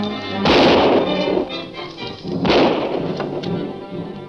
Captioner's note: dramatic music continues; gun firing continues